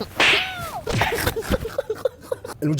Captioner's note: laughs